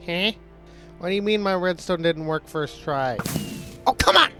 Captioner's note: firework goes off